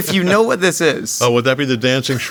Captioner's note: J.K. laughing